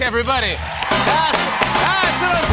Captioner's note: cheers and applause